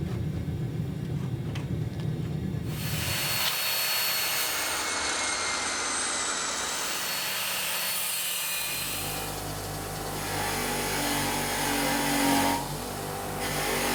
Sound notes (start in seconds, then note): 3.1 machine whirring; 10.9 grinding sound